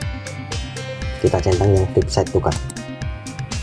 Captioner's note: click